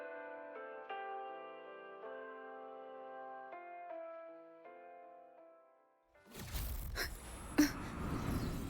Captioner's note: gasping